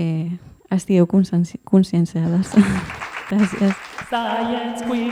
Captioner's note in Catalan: aplaudiments